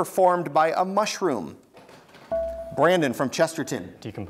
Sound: buzzer beeps

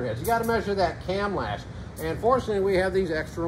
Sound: none

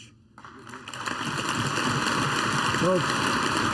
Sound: applause

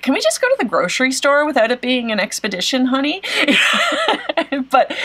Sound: laughs

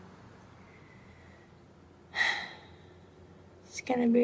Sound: cassie sighs

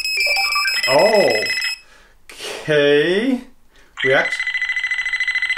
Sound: multiple beeping

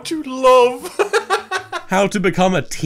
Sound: laughs

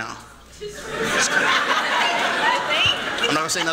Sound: laughter

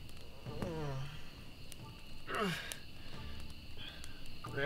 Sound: groaning

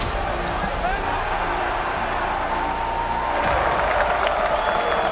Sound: intense music; crowd cheering

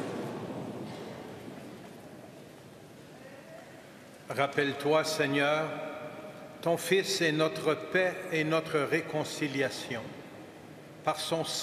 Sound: speaking French

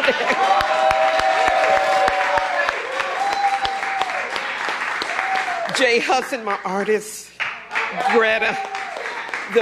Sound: cheers and applause

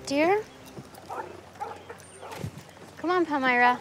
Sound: dog barking

